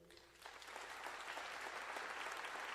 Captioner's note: applause